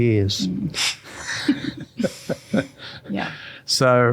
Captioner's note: both laughing